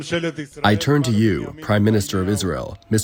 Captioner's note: through translator